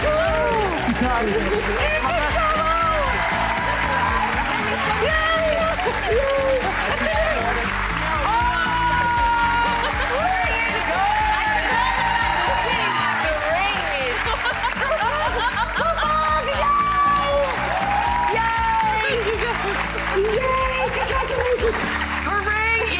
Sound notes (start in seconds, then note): 10.3 audience cheering